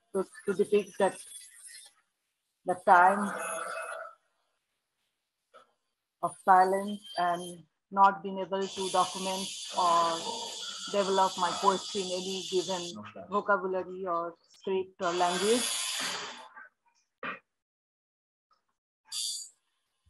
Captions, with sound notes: was to depict that time of silence and not being able to document or develop my poetry in any given vocabulary or script or language. (tattoo gun buzzing)